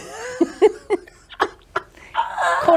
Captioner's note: both laugh